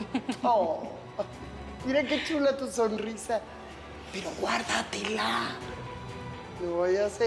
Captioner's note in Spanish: risas